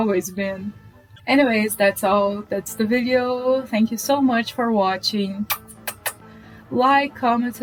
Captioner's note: kiss noises